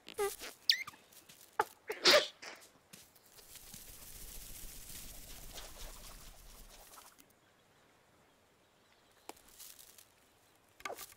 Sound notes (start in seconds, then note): 0.2 caterpillar farting; 1.9 bird sneezes